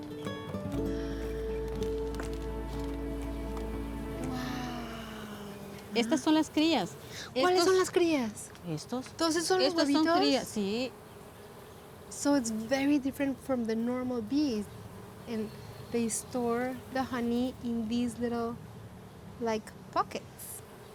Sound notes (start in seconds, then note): 5.6 speaking Spanish